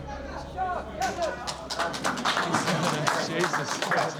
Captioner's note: applause